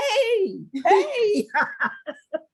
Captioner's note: laugh